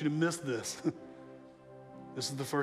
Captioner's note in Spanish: risas